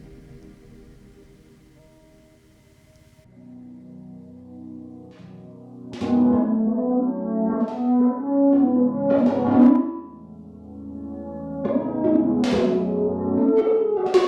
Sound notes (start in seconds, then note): 5.2 dramatic music; 6.0 footsteps